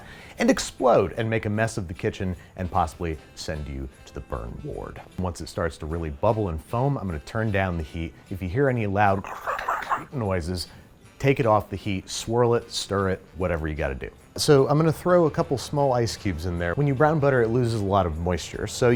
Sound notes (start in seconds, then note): 9.2 hissing